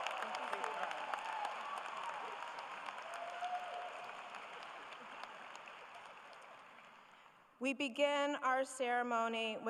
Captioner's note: applause